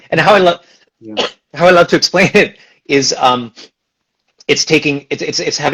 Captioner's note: laughs